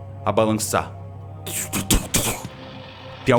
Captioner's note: tumph tumph